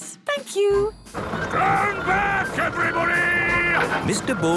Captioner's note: shouting